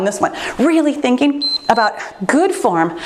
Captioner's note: timer beeps